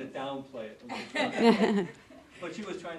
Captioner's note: audience laughing